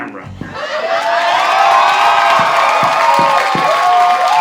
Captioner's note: audience cheering